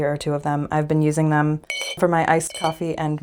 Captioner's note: clink